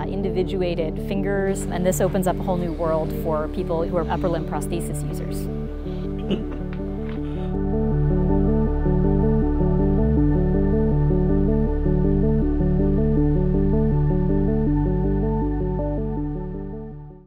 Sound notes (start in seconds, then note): 6.1 chuckle; 7.3 background music gets louder